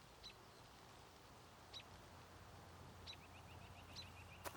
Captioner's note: birds chirping